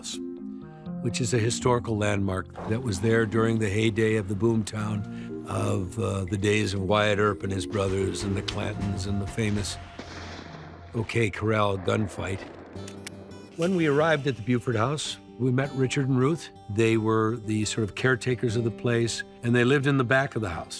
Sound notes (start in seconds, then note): 11.4 gun fires; 12.2 lighthearted music